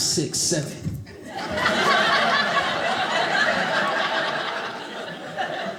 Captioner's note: audience laughing